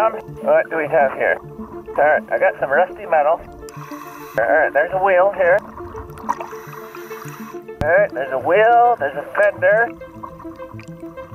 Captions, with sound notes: What do we have here? All right, I got some rusty metal, all right there's a wheel here. (water bubbling) Okay, there's a wheel, there's a fender.